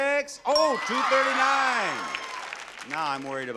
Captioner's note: audience cheers